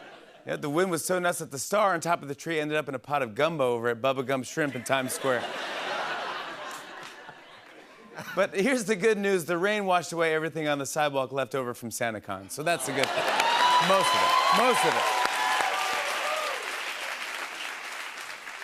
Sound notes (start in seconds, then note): 4.7 laughter; 14.9 cheers and applause